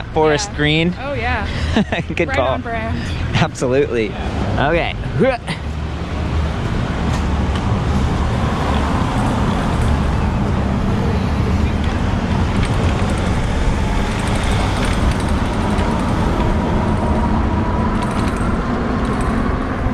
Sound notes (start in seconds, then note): 1.4 laughs; 6.4 grunts; 10.8 bike chains clacking; 14.4 electric motor revving up